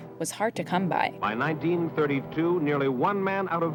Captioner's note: soundbite of archived recording